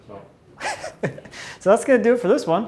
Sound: laughs

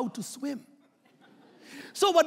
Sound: laughing

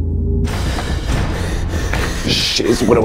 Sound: breathing heavily

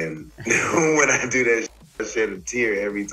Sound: laughing

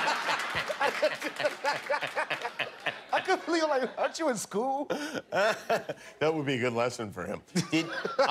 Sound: laughter

